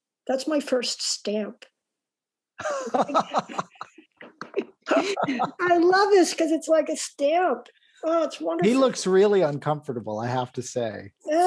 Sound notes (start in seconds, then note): 2.6 laughter